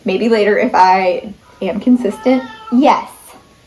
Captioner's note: cat meows